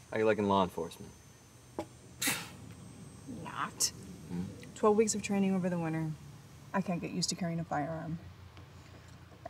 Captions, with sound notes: - How you likin' law enforcement? - (scoffs) Not! 12 weeks of training over the winter, I can't get used to carrying a firearm.